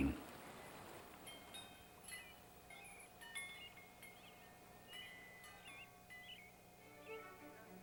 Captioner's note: wind chimes; orchestra music